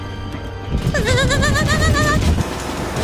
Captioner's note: wailing